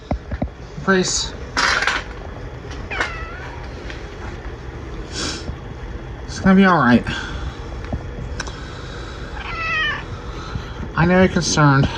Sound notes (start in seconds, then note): 2.8 meows; 9.3 meows